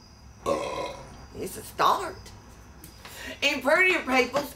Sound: burps

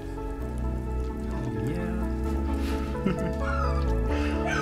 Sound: laughter

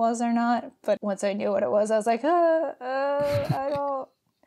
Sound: makes scared sound; laughs

